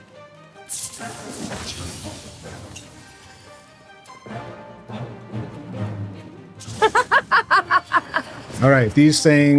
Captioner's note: laughter